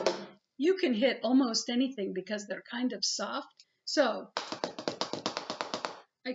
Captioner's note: fast taps; fast taps